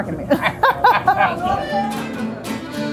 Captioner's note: both laughing; lively music